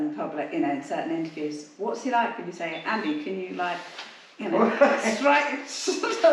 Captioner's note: giggles